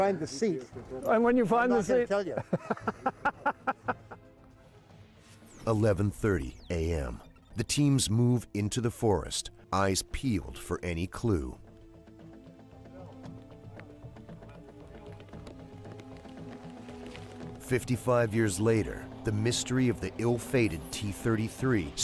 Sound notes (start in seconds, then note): 12.4 laughing; 15.7 voiceover